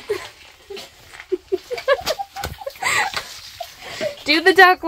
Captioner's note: laughing